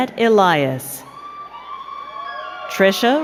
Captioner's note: crowd cheering